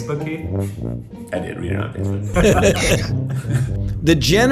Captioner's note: Fauci laughs